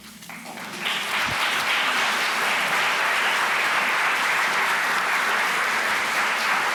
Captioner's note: audience clapping